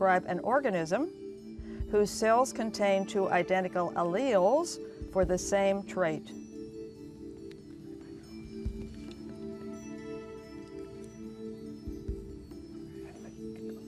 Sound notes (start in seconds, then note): 9.5 whispering